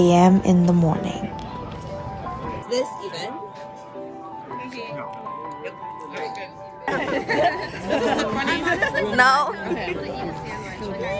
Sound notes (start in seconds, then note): 1.2 laughter